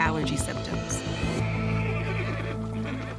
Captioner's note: cow mooing